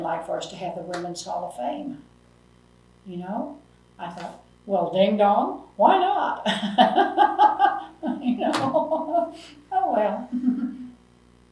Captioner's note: laughs